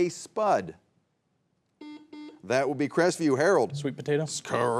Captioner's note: buzzer beeps